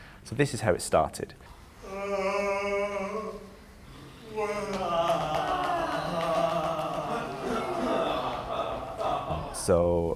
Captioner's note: performers yawn, make warm-up noises